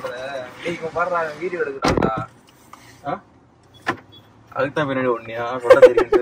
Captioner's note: Laughs